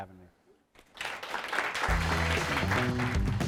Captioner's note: audience clapping; upbeat music